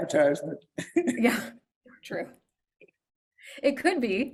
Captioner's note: chuckles